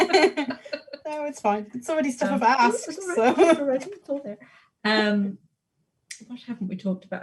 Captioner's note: both laugh; quietly